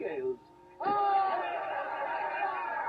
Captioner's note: yelling